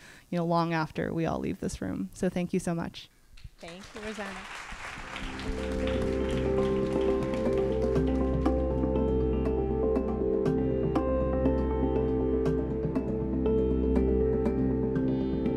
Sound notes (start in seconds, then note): 3.5 applause